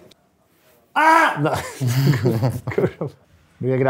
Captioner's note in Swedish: skratt